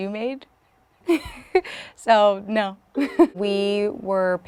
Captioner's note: laughing